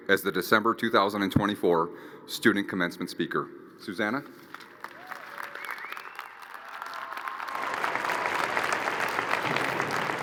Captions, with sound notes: as the December 2024 student commencement speaker. Suzanna. (crowd cheering and applauding)